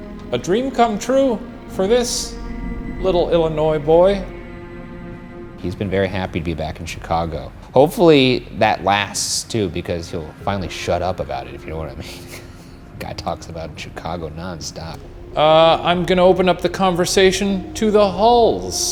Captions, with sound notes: A dream come true for this little Illinois boy. - He's been very happy to be back in Chicago. Hopefully that lasts, too, because he'll finally shut up about it, if you know what I mean. (laughs) Guy talks about Chicago nonstop. - I'm gonna open up the conversation to the Hulls.